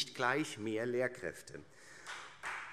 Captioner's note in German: Beifall Freie Demokraten, SPD und vereinzelt AfD